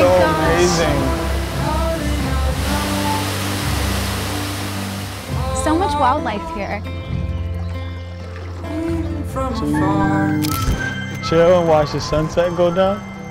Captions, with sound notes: - Oh my gosh. - So amazing! (gentle music) - So much wildlife here. (gentle music) (water trickles) - Cheese! Chill and watch the sunset go down?